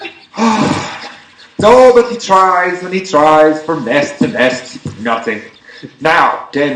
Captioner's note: sighs